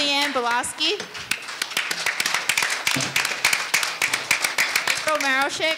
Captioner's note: audience applauding